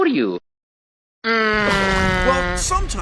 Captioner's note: imitates airplane